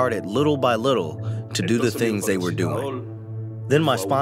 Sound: through translator

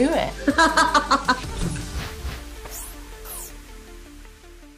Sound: laughs

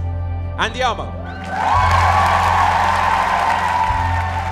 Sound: cheers and applause

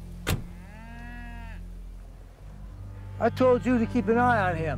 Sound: cattle bleating

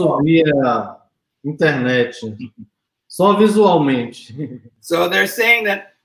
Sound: speaks portuguese

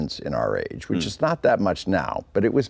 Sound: humming

